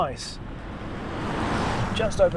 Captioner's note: car roaring